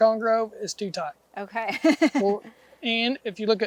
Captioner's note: laughing